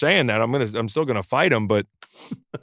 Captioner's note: laughs